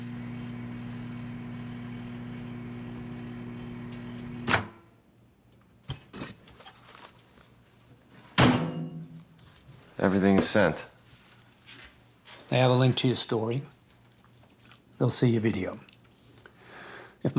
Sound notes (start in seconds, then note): 0.0 microwave humming; 8.4 microwave door banging shut